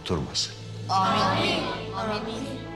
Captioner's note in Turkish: Hepsi bir ağızdan